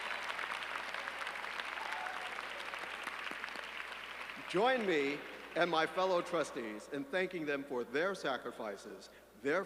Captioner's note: applause